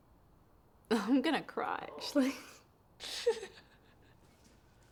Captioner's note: cries